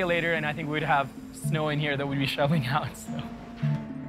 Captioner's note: chuckling